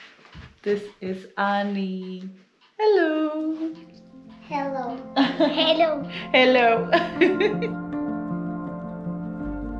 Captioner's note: laughs